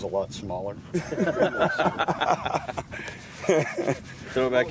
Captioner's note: men laughing